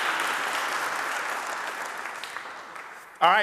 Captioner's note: audience applauding